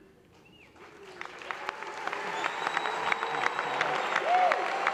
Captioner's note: applause